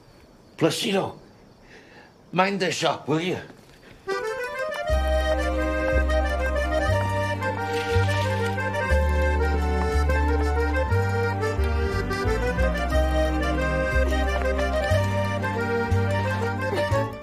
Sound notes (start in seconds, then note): 14.5 straining